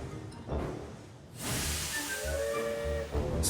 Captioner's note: samson whistles